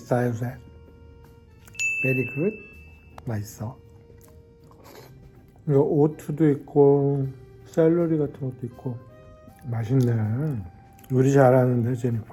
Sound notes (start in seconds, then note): 1.7 bell chimes; 3.3 speaks Korean